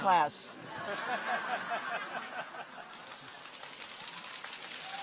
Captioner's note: audience laughs